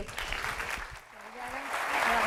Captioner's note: applause